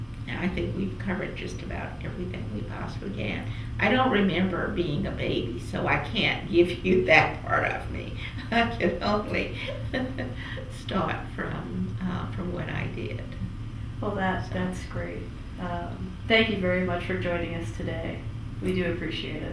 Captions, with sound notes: And I think we’ve covered just about everything we possibly can. I don’t remember being a baby so I can’t give you that part of me. (Laughs) I can only start from when I did. Well, that’s great. Thank you very much for joining us today. We do appreciate it.